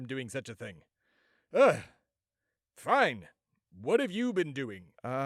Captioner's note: exasperated